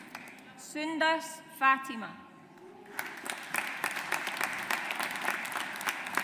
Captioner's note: audience applauds